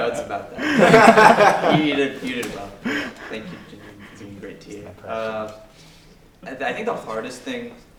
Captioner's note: laugh